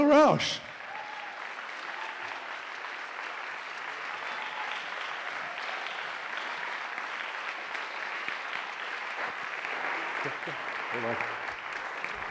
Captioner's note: applause